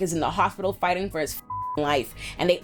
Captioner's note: beep